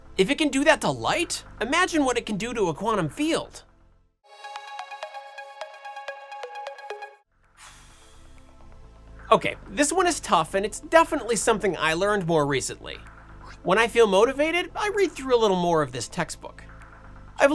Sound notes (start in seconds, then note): 7.6 dramatic exhale